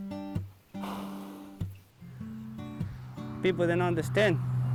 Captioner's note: horse chuffing